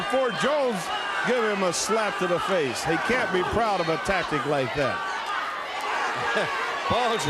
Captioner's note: crowd chatter